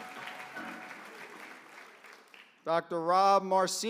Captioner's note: applause